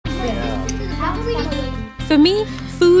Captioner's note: upbeat music; children chatting